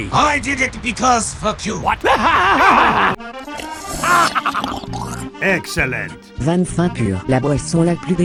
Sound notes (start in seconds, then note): 1.8 crazily laughter; 2.7 growl; 4.0 drinking sound